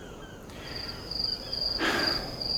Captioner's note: crickets chirping